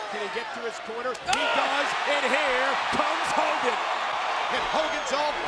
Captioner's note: crowd cheering